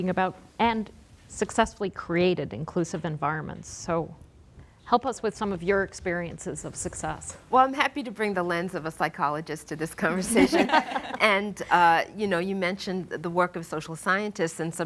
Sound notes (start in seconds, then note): 10.3 laughing